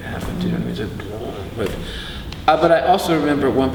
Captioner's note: makes rumbling sound